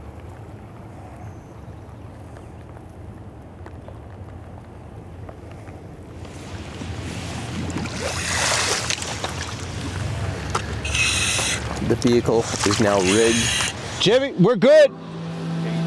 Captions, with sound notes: (water splashing) (air hissing) The vehicle is now rigged. - Jimmy, we're good,